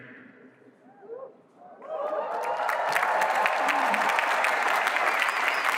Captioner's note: cheering